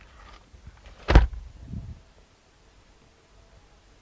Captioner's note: door slams